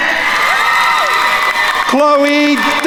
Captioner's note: attendees cheering and applauding